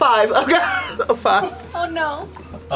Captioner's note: laughs